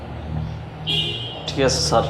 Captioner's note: car honk